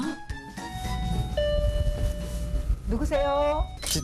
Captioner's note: ding-dong~♬